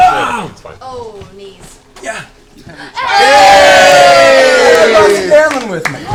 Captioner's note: cheering